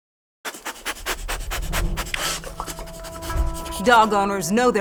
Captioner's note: dog sniffing